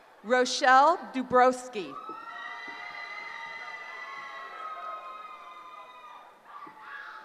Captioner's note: cheering